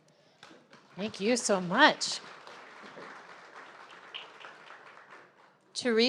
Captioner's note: audience applauding